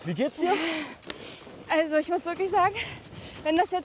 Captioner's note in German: Sie atmet schwer